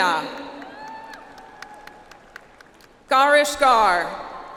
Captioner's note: audience applauds